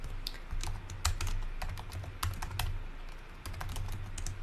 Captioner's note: keyboard clicking